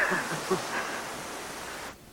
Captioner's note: chuckle